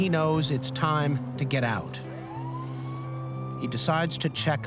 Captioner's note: sirens blaring